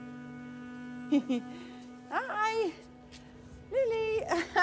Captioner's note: laughs; laughs